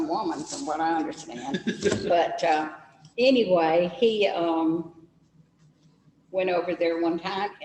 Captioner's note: laughs